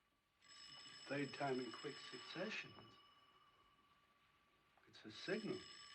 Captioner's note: ringing Continues